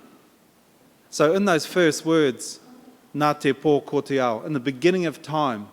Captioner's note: in Maori